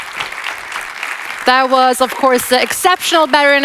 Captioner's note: audience applauds